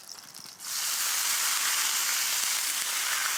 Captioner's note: sizzling